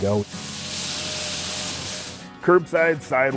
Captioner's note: plow brush whirring